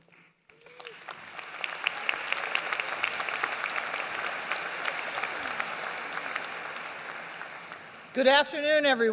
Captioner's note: applause